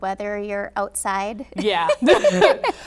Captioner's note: laughing